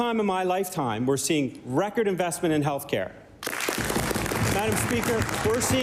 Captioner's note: applause